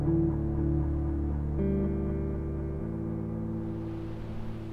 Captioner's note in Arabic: الرياح القوية والأمواج الملتفة